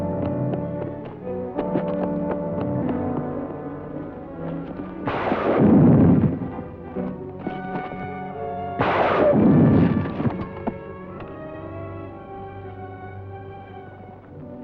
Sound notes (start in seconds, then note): 5.0 gun firing; 11.8 solemn music